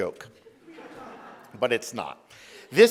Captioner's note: audience laughs